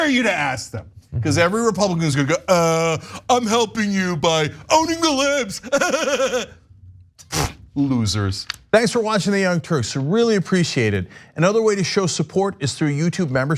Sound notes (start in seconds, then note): 7.6 laugh